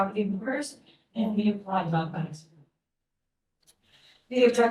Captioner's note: speaking faintly